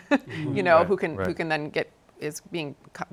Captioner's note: laughs